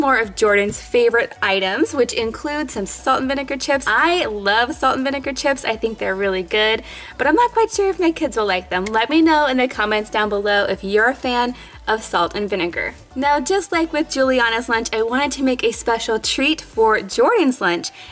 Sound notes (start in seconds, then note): none